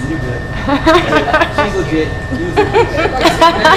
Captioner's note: laughing